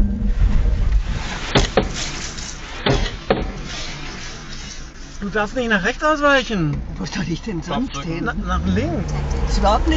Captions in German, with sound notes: (Dumpfes Geräusch des Rückspiegels) Du darfst nicht nach rechts ausweichen. Wo soll ich denn sonst hin? - Na, nach links.